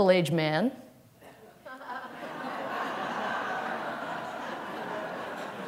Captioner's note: laughter